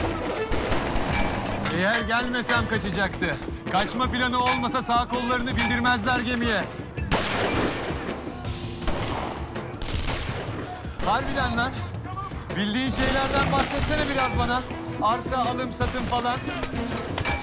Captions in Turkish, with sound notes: (Silah sesleri) Eğer gelmeseydim kaçacaktı. Kaçma planı olmazsa, sağ kollarını bindirmezler gemiye. (Silah sesleri) Harbiden lan, bildiğin şeylerden bahsetsene biraz bana. Arsa alım satım falan.